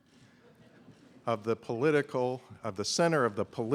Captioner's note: laughter